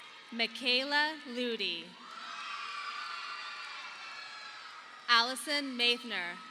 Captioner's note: audience applauding